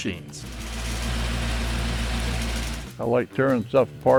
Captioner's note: engine rumbling